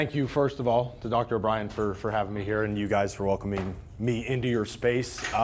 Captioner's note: none